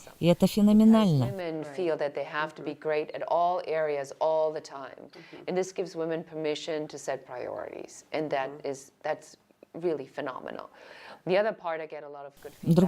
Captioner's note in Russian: Разговаривают на английском